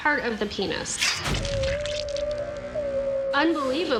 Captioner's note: whale vocalizing